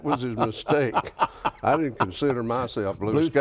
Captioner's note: laughs